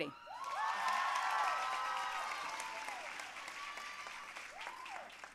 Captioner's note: audience cheering and applauding